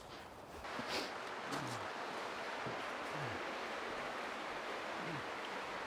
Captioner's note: Elvis sniffs; Mercer grunts